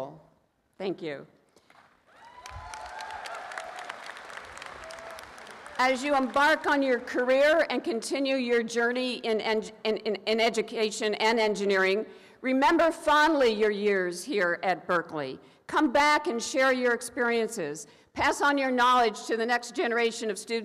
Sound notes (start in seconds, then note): 1.6 applause